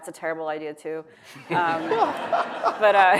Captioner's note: audience laughs